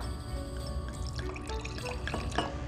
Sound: pouring

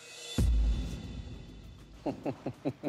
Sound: laughs

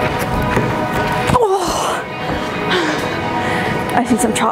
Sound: groaning

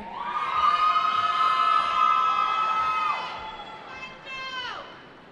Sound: cheering

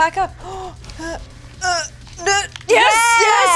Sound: quiet yell; grunts; exlamations

